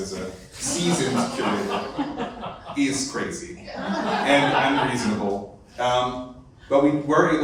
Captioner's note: laughter